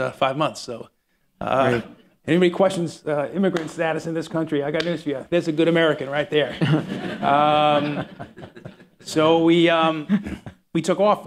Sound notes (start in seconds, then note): 6.4 laughter